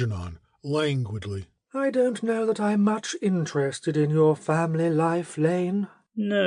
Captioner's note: languidly